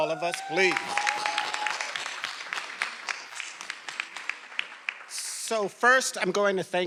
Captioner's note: attendees cheering; everyone applauding